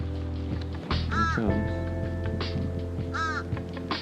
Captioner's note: upbeat music; osprey squawks